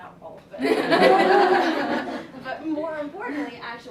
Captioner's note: laughter